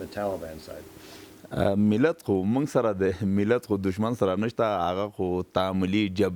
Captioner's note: speaking in a foreign language